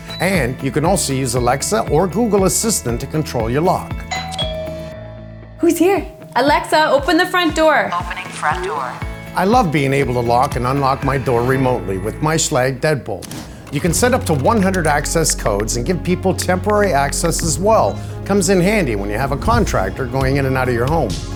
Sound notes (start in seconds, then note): 4.0 doorbell rings